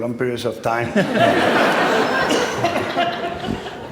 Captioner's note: laughter